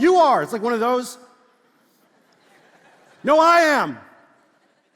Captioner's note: congregation laughs